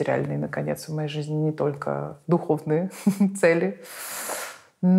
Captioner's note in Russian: смеясь